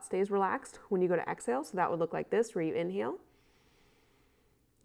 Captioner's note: inhales